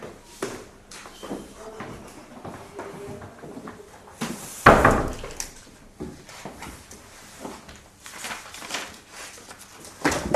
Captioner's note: shuffling papers